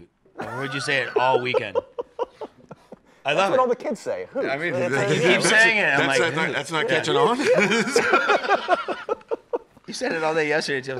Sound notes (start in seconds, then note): 0.4 laughs; 7.0 laughs